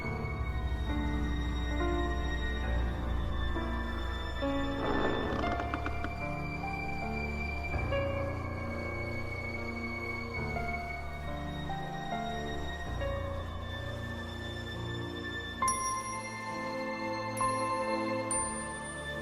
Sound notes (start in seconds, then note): 4.6 door creaking